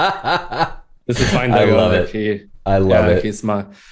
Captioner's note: laughter